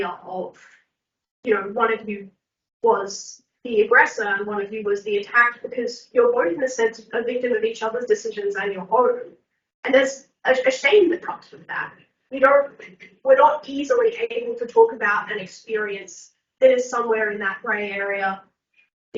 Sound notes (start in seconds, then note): none